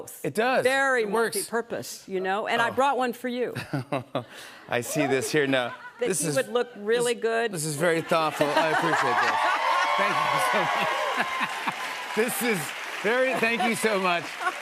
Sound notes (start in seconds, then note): 3.9 chuckles; 11.1 laughter